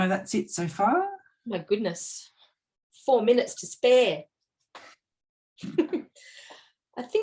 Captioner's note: chuckles